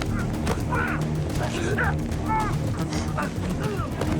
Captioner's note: choking